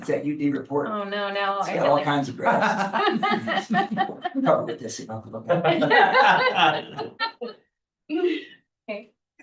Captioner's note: laughs